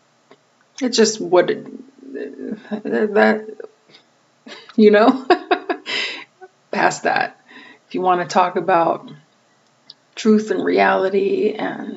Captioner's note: laughing